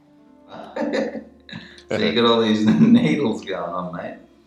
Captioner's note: chuckles